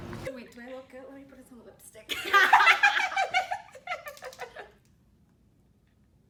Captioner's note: laughter